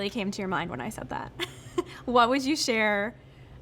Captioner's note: laughing